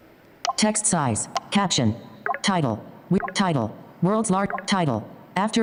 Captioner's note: automated Voice